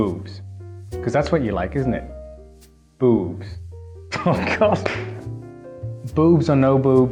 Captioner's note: laughter